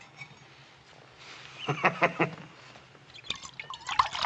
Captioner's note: chuckles